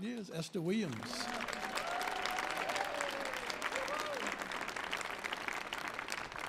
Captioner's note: audience applauding and cheering